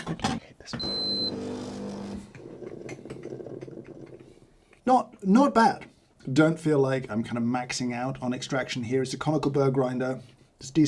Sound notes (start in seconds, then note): 0.8 machine beeps and brews